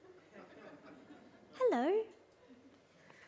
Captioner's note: audience laughs